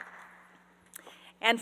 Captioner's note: applause